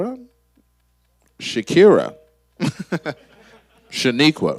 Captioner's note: laughs